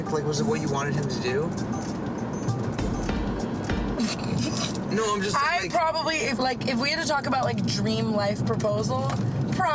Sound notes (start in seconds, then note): 1.7 light music; 4.1 laughs